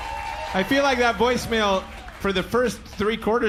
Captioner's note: audience applauds